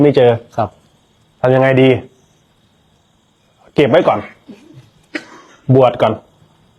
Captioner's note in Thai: เสียงหัวเราะ